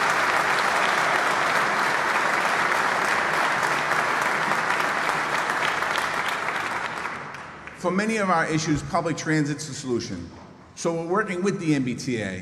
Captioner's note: applause